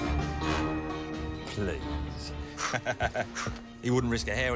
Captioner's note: laughs